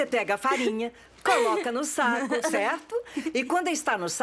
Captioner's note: laughing